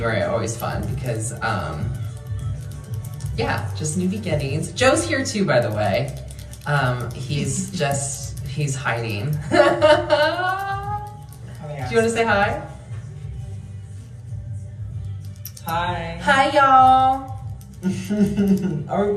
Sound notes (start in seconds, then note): 7.3 giggling; 9.3 laughing; 17.8 laughing